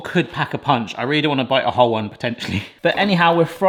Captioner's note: laughs